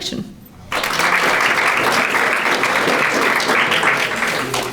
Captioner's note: audience applauding